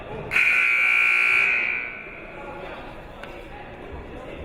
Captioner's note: buzzer blares